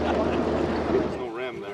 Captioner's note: laughter